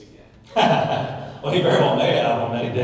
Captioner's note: laughs